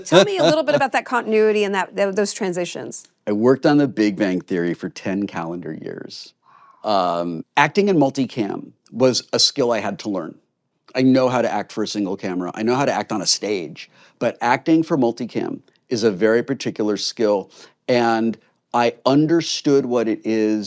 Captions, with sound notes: Tell me a little bit about that continuity and those transitions. I worked on The Big Bang Theory for ten calendar years. (WHISPERS) Wow. Acting in multicam was a skill I had to learn. I know how to act for a single camera, I know how to act on a stage, but acting for multicam is a very particular skill, and I understood what it is,